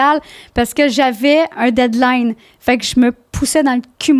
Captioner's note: in french